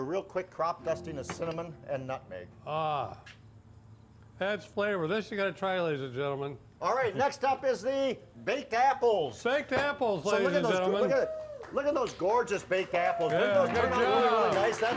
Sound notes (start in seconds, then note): 10.3 crowd cheering